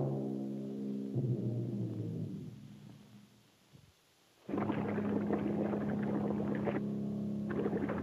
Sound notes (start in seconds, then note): 4.4 water bubbles